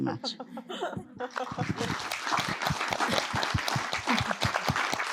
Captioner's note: audience applauding